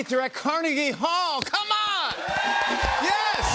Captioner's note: cheers and applause